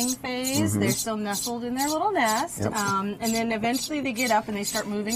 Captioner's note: laughs